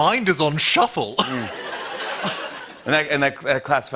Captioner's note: laughter